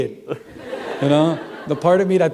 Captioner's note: laughter